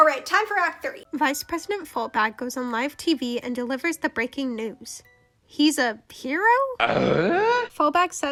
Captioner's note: eugh?!?!?!